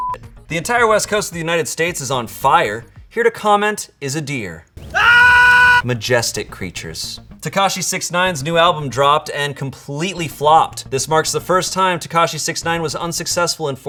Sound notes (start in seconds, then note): 4.8 screams